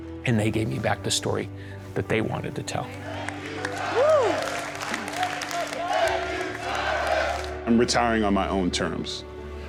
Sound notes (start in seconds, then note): 2.9 chanting